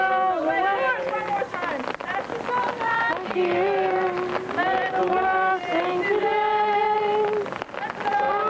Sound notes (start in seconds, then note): 1.0 speaking; 2.0 singing